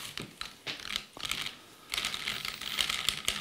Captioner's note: rustling